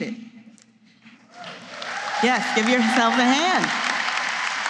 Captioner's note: applause